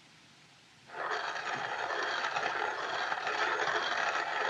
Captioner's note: grinding